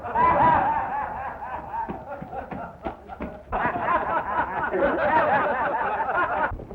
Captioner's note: laughter